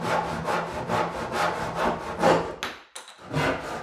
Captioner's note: saw scraping